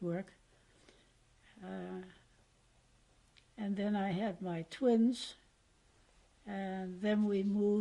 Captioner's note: pauses for 3 seconds